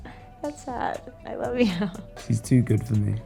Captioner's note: giggles